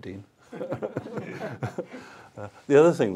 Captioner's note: laughter